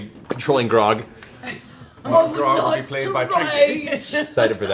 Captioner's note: Grog voice